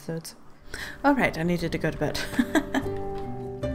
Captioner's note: laughs